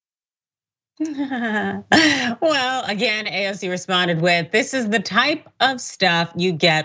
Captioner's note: laugh